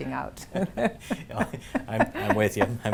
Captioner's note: laughing